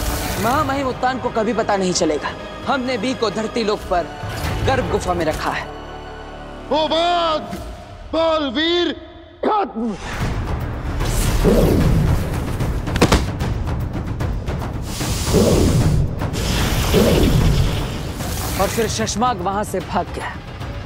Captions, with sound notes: 'Maha Mahim Uttan will learn that' 'we have hidden B in Garb Cave on Dharti Lok.' 'Hobaad, Baalveer is no more!' [dramatic music plays] [thud] And then, Shashmaag escaped.